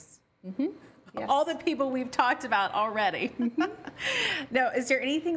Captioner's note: laughs